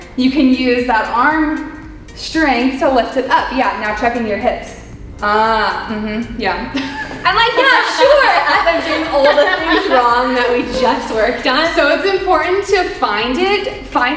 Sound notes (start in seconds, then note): 6.7 both laughing